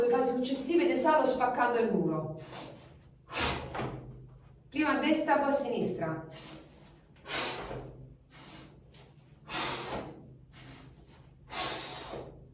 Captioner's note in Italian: sbuffare